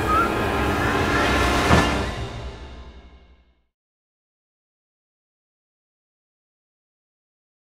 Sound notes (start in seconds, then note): 1.6 trunk slams